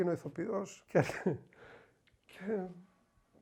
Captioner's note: laughing